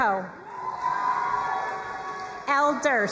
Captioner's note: crowd cheering and applauding